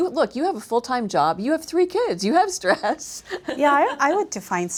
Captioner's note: laughs